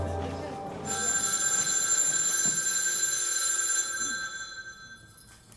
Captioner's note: jazzy music playing; phone rings